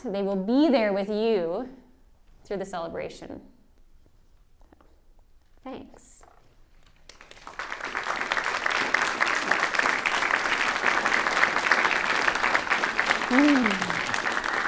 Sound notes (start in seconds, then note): 6.9 applause